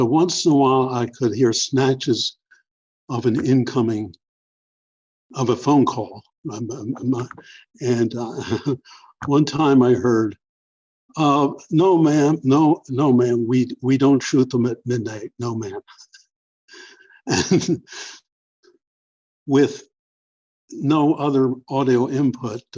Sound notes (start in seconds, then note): 8.2 laughter; 17.2 laughter